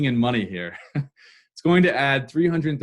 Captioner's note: laugh